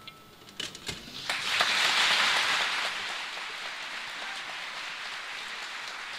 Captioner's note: applause